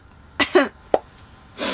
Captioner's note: coughs